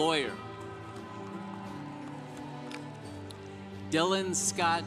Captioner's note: congregation applauding